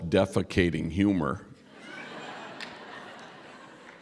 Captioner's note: laughter